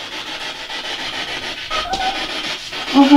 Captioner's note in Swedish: hund ljud